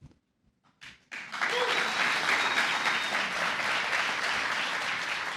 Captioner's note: applause